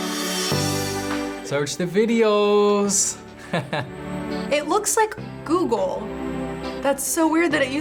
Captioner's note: chuckles